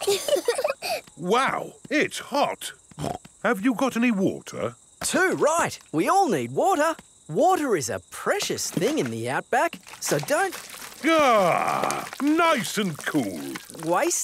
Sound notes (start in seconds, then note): 0.0 laughing; 3.0 snorts